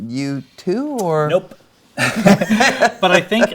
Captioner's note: Brian laughs; laughs